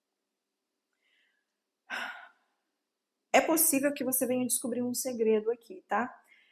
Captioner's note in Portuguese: suspirando